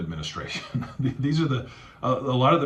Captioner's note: laughing